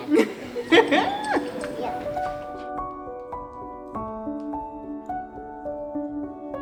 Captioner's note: laughing; gentle music